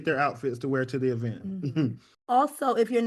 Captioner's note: chuckles